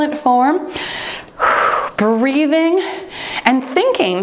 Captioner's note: exhales